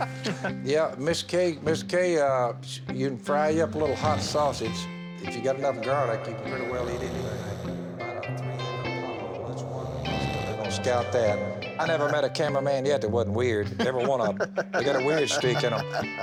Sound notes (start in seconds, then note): 6.6 snoring; 13.6 laughs